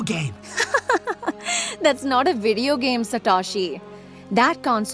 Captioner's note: laughs